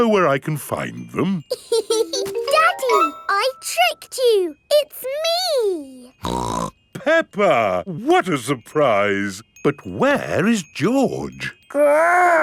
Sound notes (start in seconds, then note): 1.5 laughs; 6.2 snorts